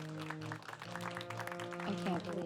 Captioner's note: triumphant music; clapping